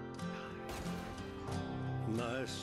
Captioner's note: gunshot